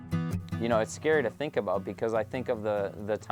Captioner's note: voiceover